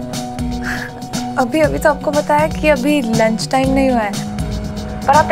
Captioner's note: Exhales